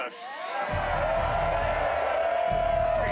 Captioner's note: crowd cheering